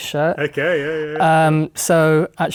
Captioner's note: laughing